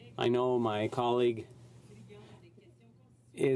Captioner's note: speaking French